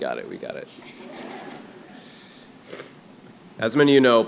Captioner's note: laughter